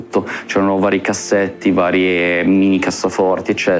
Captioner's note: none